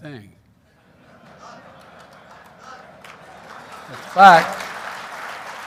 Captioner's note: laughter and applause